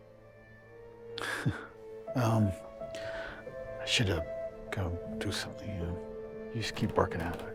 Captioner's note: laughs